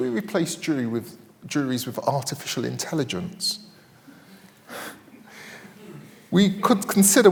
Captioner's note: laughs